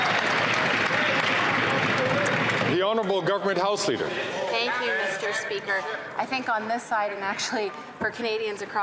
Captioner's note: some Applause